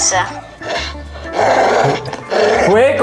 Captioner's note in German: Knurren